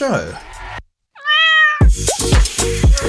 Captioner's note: same interrupting cat meows